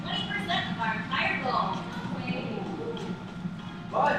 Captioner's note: murmurs